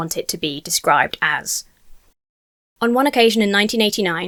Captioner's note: audio cuts out